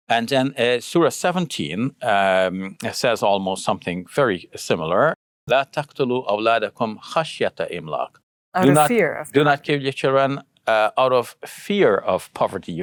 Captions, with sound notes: And then surah 17 says almost something very similar. (speaking in foreign language) - Out of fear of poverty. - "Do not kill your children out of fear of poverty."